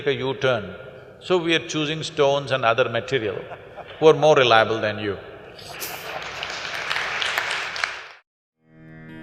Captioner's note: laughter/Applause; 笑聲/掌聲